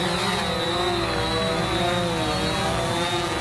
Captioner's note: drone humming